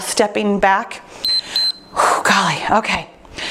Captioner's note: timer beeps